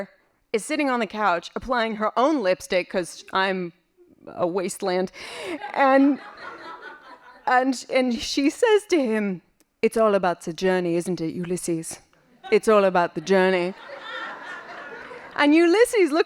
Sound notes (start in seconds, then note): 6.6 laughing